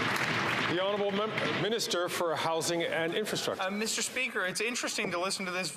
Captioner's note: some Applause